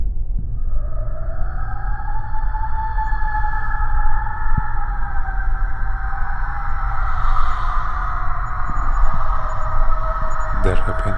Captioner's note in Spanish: Sonido Gutural